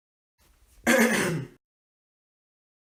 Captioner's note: fake cough